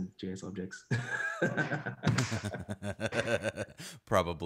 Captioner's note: laughing